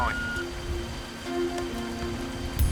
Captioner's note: beep